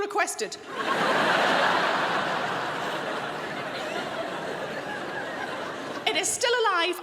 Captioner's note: crowd laughs